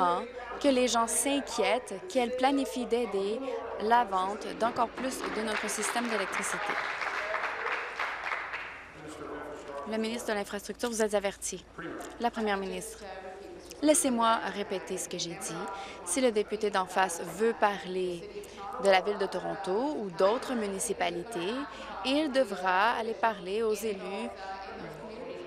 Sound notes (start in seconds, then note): 8.8 applause